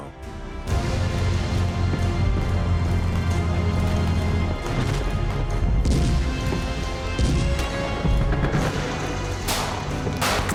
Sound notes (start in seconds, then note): 3.9 gunfire